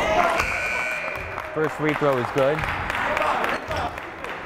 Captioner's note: buzzer blaring; clapping